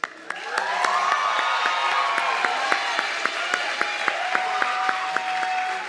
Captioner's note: audience clapping and cheering